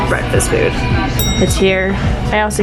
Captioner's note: ding